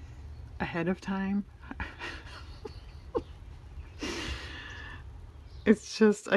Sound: laughs

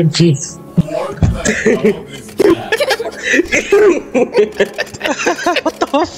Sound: spectators continue laughing

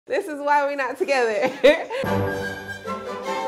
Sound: laughs; upbeat Christmas music

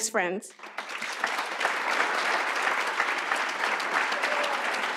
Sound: audience applauds

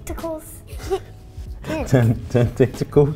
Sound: laughs

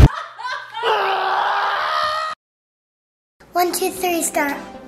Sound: laughing

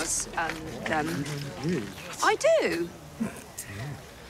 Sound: crowd mumble

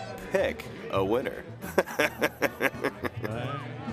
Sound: chuckles; country music in background

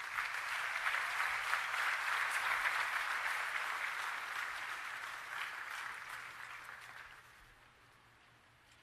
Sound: applause

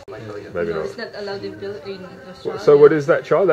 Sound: woman's Voice

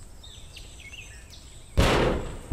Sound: slam

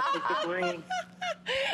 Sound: laughter

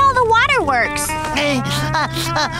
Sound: sobbing

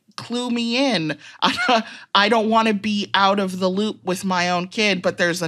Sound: chuckles

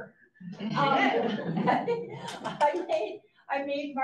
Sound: audience laughs

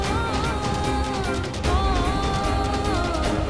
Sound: emotional vocalising

